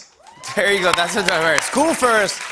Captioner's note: cheers and applause